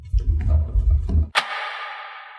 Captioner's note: click